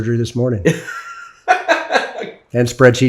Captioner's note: laughs